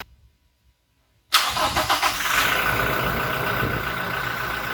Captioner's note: the sound of the engine running